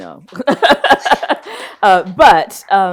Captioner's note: laughs